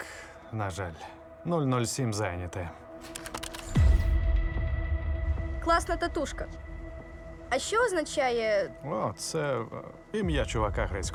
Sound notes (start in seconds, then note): 3.0 camera clicks; 3.9 tense music playing